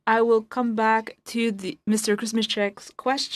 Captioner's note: speaking in French